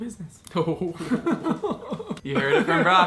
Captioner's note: laughing